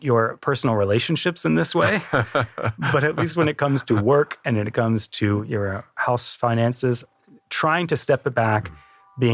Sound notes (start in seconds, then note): 1.8 laugh